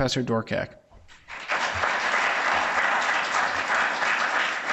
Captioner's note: audience applauds